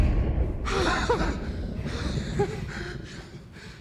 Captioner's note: laughs